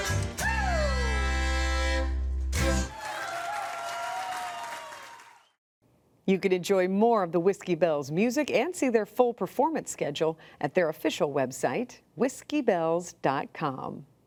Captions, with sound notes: (audience cheering and applauding) - You can enjoy more of The WhiskeyBelles' music and see their full performance schedule at their official website, WhiskeyBelles.com.